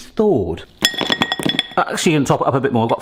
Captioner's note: frozen spinach dings on bowl